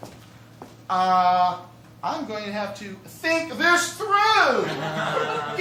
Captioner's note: mockingly